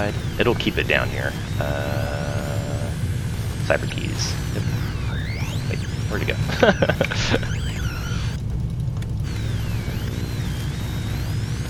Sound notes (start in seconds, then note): 6.3 laughs